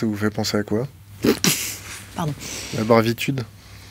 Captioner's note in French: Rires